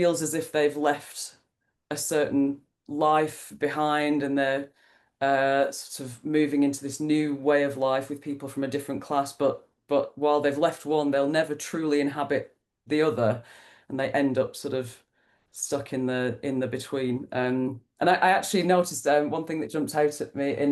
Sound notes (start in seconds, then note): none